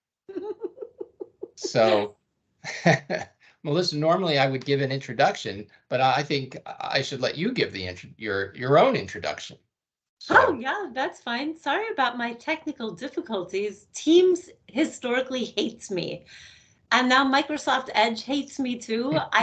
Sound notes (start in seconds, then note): 0.3 chuckling; 2.6 laughing